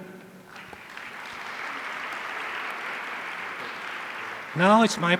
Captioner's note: audience applauding